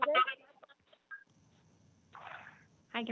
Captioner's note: speaks non-English language